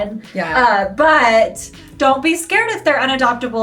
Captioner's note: none